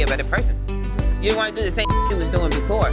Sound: beep sound

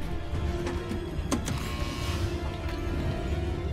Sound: door buzzes

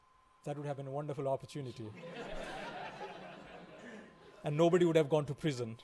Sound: laughing

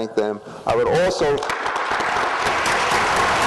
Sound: applause

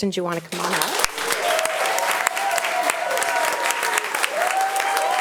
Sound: audience applauding

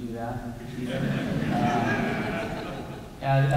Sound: laughter

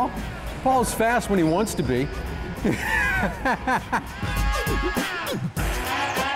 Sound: laughs

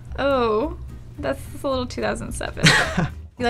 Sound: laughs

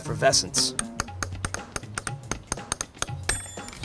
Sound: tapping noise

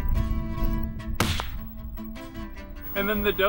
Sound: gunshot

